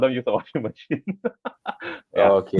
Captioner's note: laughs